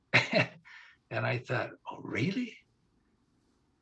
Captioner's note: laughing